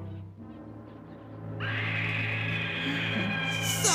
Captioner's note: woman screams